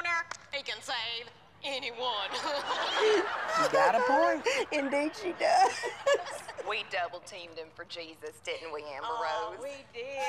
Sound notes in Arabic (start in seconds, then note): 2.3 الجمهور يضحك